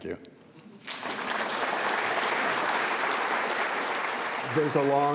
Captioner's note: audience clapping